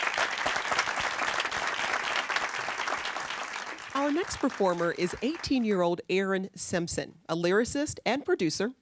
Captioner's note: applause